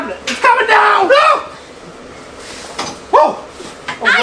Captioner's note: screams